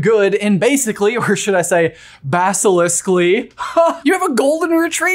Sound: chuckles

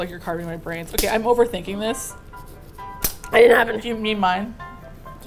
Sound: snap

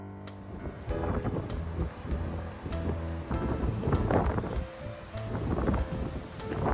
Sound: gentle piano music continues; wind whipping

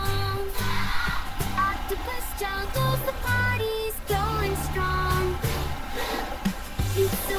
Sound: bloop, bloop!

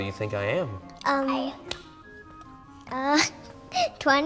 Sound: hands clap

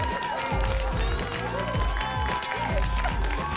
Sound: applause and cheering cont

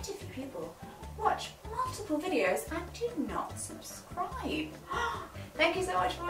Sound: gasps

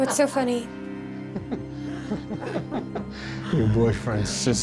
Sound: demons cackling

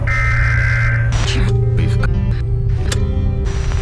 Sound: static hums; alarm blares; people mumbling; distorted music

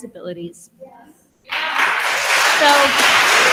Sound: attendees applauding

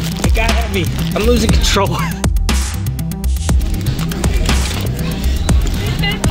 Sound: laughs

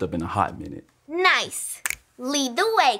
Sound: fingers snap

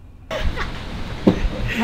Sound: chuckles

